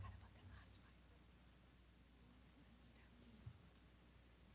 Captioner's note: whispering